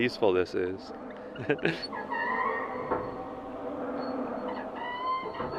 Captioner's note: laughing; locks squeaking